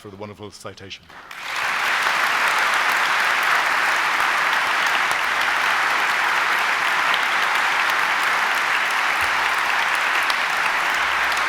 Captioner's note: applause